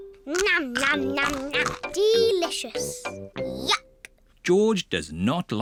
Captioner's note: crunches